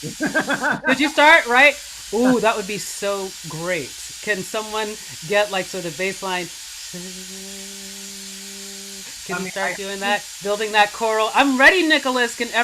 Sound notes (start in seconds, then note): 0.0 laughing; 7.5 buzzing